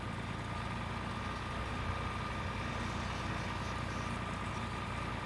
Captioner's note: tractor grumbling